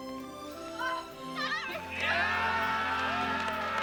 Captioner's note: cheering and applause